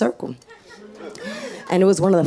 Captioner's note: audience laughs